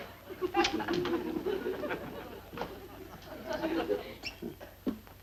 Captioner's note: light laughter